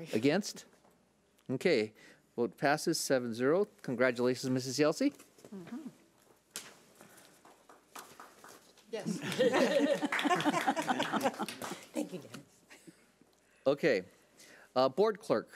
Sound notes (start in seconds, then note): 7.4 claps; 9.0 laughs